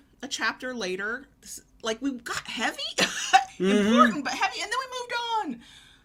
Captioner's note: laughs